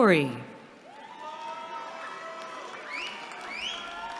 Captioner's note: cheering